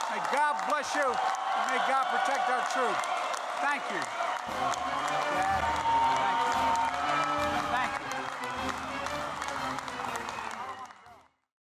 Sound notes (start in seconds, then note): 7.4 applause